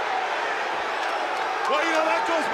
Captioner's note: crowd booing